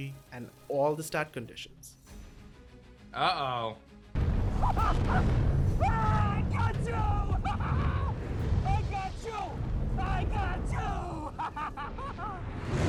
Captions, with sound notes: and all the stat conditions. - Uh oh. (screams) - Got you! (screamingly laugh) I got you! I got you! (screamingly laugh)